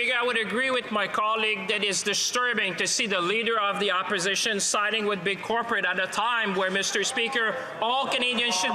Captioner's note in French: voix de l'interprète